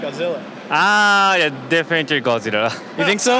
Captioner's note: laughs